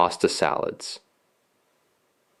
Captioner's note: pause